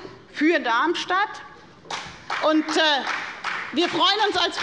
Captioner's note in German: Beifall bei der FDP